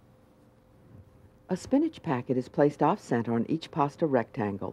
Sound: voiceover

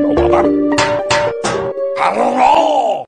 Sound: bam bam bam

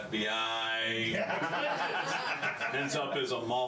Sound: laughter

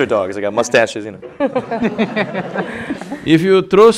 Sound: laughter

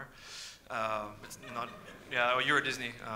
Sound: audience laughs

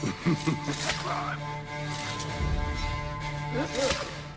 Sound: hidden blade stabbing sounds

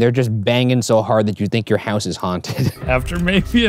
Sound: laughs

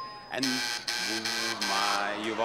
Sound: buzzer sounds

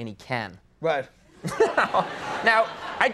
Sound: audience laughing

